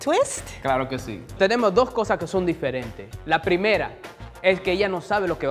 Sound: speaking in foreign language

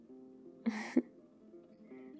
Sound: laughs

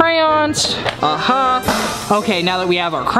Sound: victory horn

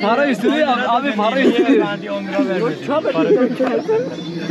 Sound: speaking Turkish

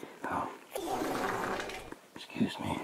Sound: flatulence

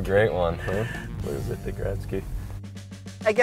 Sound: laughter

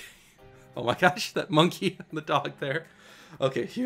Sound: laughs

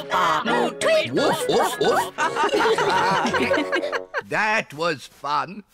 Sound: all giggle

